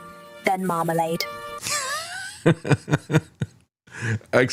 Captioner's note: laughing